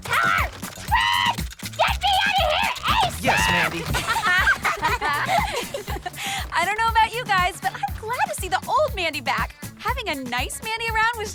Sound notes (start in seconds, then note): 2.2 the spies giggle